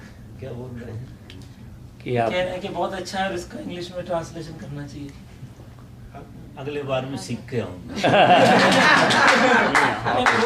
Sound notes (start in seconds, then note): 8.0 lot of laughter in audience